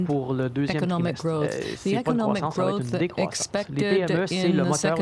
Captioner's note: speaking French